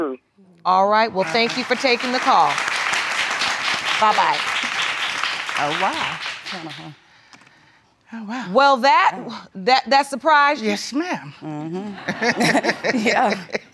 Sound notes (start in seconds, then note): 1.1 applause; 11.5 laughs